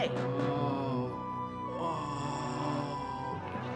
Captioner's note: moaning